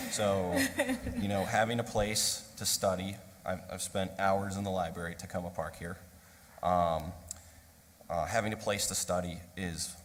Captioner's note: laughter